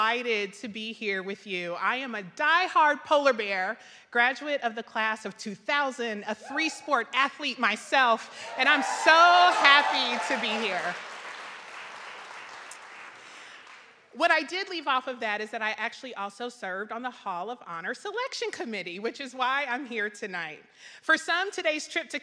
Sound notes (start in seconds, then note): 11.5 audience clapping